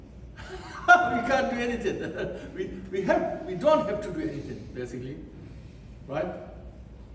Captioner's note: laughs